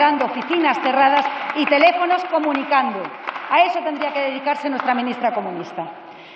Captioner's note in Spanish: Aplausos